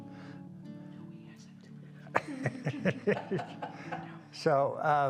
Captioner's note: both laugh